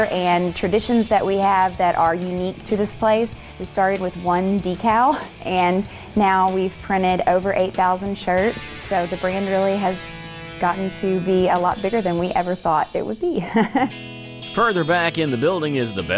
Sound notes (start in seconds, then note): 13.3 chuckling